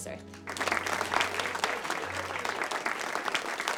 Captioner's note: class applauds